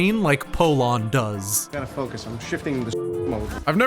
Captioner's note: dial tone